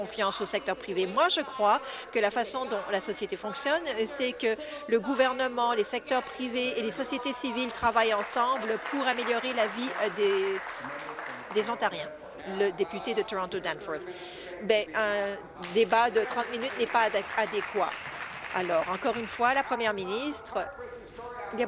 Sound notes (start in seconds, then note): 13.2 applause